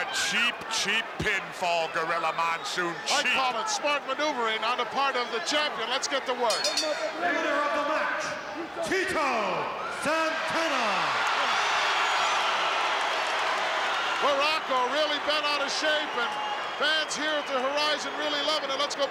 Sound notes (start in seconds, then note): 6.4 bell rings; 11.1 crowd cheers